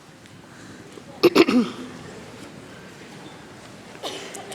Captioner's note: clears throat